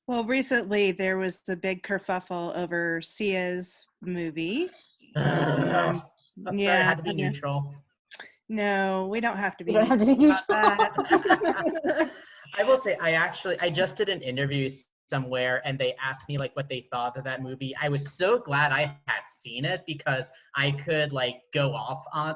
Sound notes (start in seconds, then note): 6.6 grumbling in frustration; 9.7 laughing; 9.7 everyone laughing